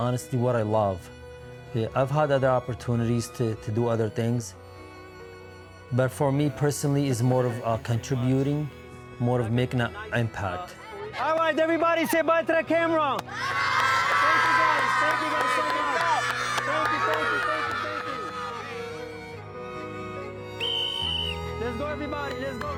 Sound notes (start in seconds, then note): 14.7 children cheering and clapping; 16.9 gentle music